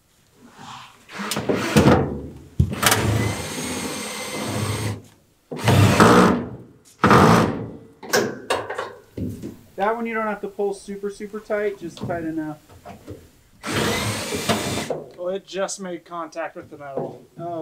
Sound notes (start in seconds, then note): 0.8 drilling